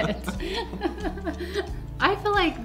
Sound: laugh

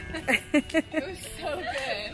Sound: laughing

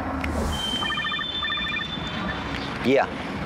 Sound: phone rings

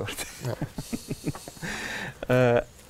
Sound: chuckles

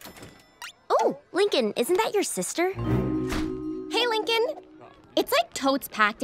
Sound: none

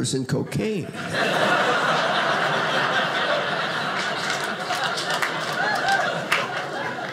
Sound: audience laughing

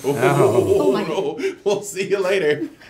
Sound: laughing

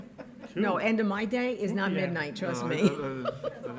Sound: laughs

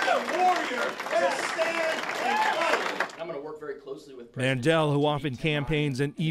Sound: applause

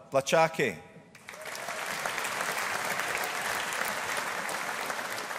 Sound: audience applauding

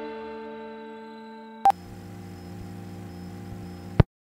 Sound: beep

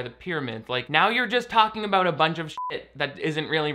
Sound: beep

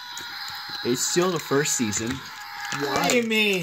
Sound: Mater Screaming

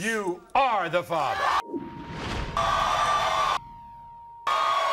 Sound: crowd cheering

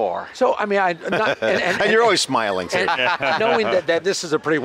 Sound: laughs

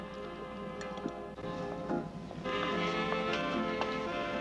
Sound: train clattering

